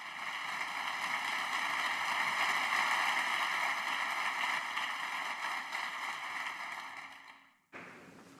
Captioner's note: applause